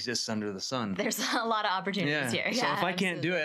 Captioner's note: laughs